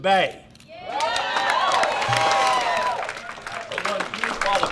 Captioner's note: group cheers; group applauds